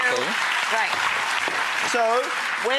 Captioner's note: audience applauding